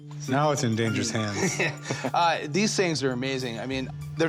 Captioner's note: laughs